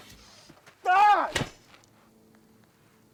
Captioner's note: screams